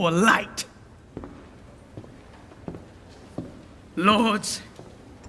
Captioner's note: footsteps departing